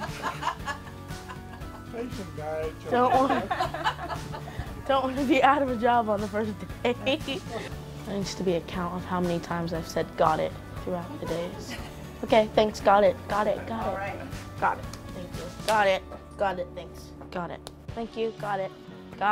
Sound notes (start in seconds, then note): 3.0 laughs